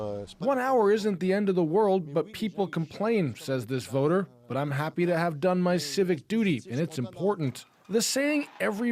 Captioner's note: speaking French